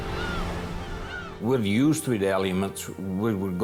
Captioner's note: gulls crying